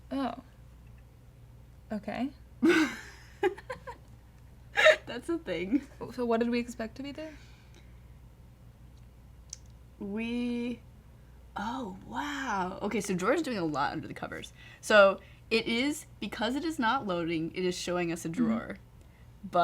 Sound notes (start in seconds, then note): 2.6 laughter